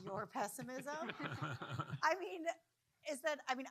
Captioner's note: audience laughing